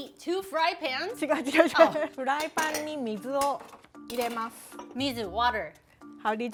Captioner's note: speaking Japanese